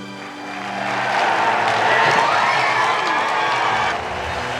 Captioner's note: applause